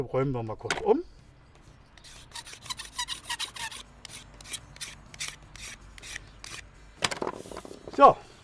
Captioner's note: knife scrapes on wood